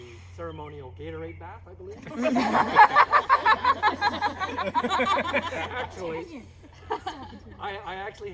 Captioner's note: people laughing so hard turns around just to be sure